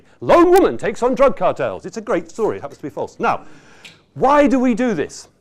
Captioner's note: none